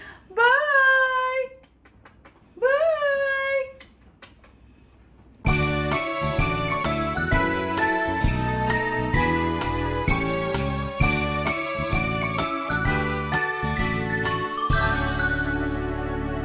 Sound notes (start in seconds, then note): 1.5 kiss; 3.8 kiss